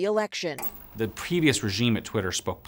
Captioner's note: TV clicking